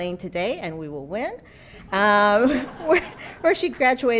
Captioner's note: audience laughing